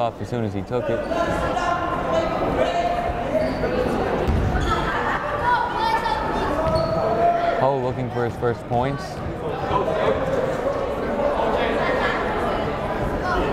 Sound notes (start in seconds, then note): 2.8 yelling